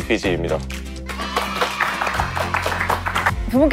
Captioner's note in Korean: 박수 짝짝